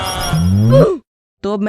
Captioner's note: ooh